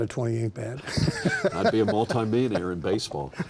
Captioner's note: laughing